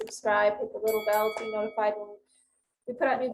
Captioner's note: bell dings